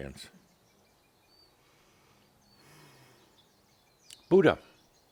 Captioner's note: slight pause